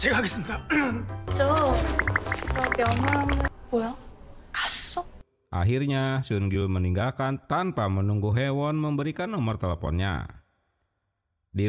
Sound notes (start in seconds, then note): 2.0 applause